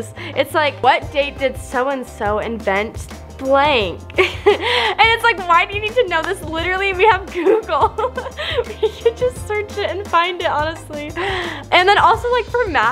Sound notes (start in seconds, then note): 7.4 laughs